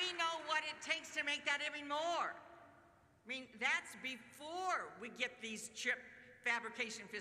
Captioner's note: applause